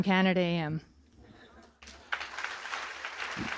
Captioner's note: applause